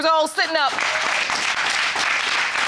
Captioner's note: audience applauding